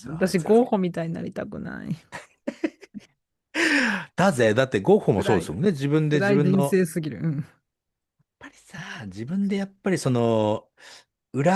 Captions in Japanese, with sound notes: 私ごみたいになりたくない [笑い] [息をのむ音] だぜ。だってごもそうですもんね。自分で自分の人生すぎる。うん。 やっぱりさ、自分でやっぱりその裏裏書きな何だっけ?うん。